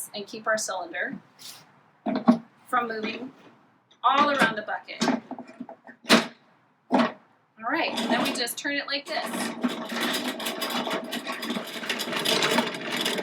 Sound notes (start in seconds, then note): 5.4 clasping noises; 9.0 cranking noises